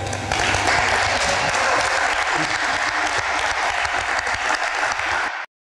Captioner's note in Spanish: aplausos en el auditorio